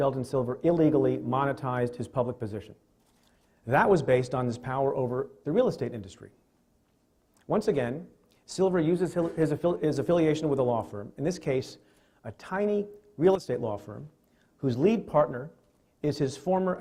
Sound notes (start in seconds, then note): 10.1 stutters